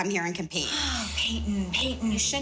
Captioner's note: sighs